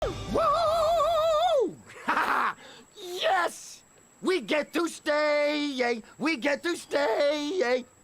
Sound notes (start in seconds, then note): 1.9 laughter